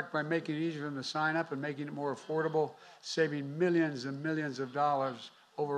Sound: none

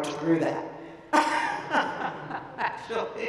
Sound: laughing

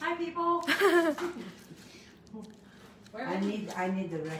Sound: laughs

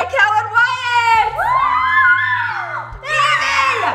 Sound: cheering

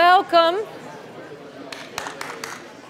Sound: audience commotion; clapping

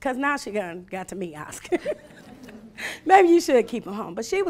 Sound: laughing

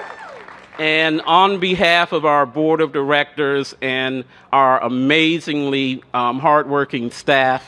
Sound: cheers and applause

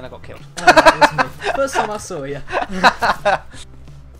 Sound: weird laugh in the background

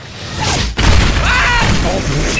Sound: SMii7Y screaming

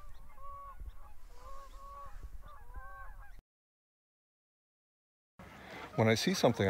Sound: geese honking

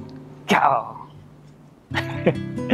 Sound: lion roar in Japanese

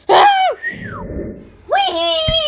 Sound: sigh of relief

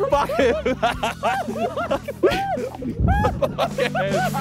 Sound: men laughing

